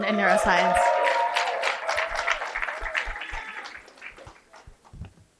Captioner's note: cheering and applause